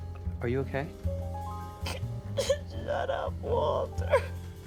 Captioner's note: sobs, sniffles